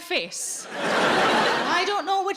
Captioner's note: audience laughs